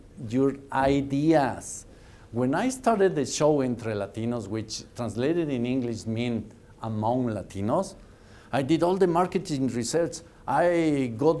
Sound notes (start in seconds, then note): none